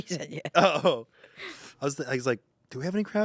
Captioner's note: laughs